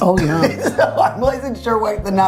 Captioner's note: laughing